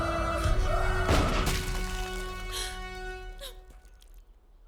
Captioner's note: gun shooting